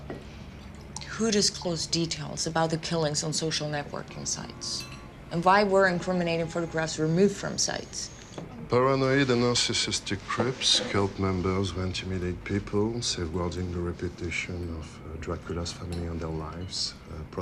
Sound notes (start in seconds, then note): none